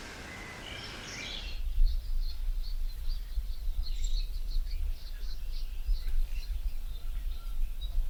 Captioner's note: birds chirping